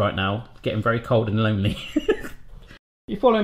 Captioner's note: laughing